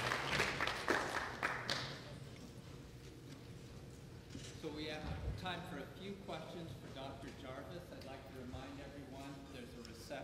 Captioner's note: applause